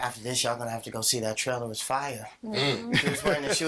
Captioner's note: laughing